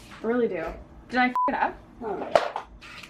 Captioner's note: beep